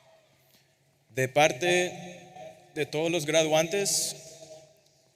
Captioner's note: speaking Spanish